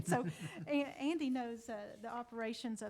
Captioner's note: laughs